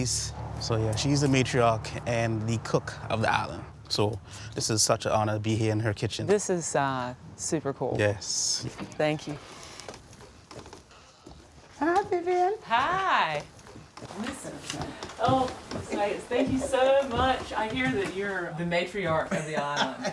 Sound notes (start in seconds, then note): 10.7 screen door creaks